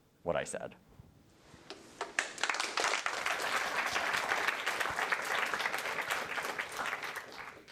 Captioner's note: applause